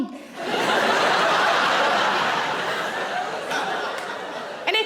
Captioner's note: audience laughing